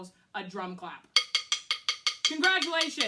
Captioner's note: clicks drumsticks together